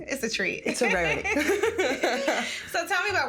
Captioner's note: both laughing